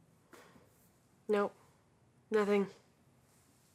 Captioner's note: sighs